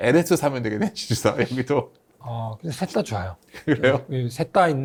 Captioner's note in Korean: 웃음